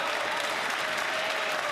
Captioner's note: some Applause